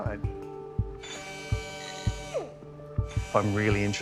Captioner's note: whirring